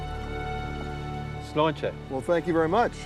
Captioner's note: speaking Gaelic